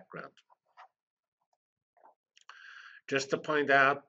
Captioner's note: pause